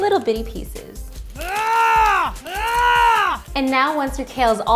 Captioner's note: grunts With Effort